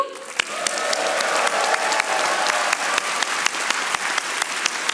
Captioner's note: audience applauding